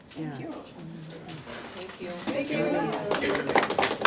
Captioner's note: claps